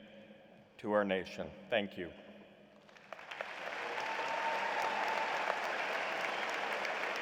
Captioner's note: applause